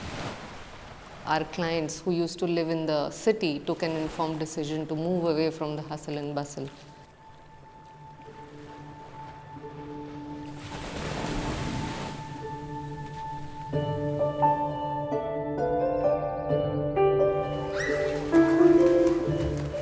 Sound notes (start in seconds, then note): 10.6 waves lapping; 15.6 birds chirping; 17.4 water lapping the pool